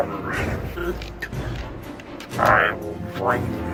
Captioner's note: weakening moans